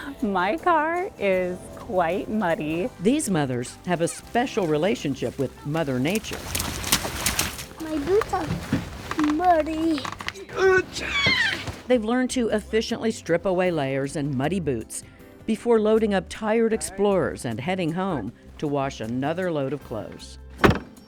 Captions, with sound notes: -My car is quite muddy. -These mothers have a special relationship with Mother Nature. -My boots are muddy. -[ Grunts ] -They've learned to efficiently strip away layers and muddy boots before loading up tired explorers and heading home to wash another load of clothes.